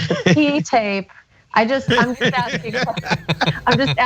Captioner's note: laugh